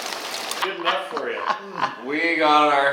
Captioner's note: laughing